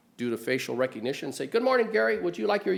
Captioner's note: in a higher tone